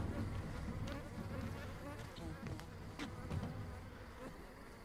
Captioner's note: swarms of flies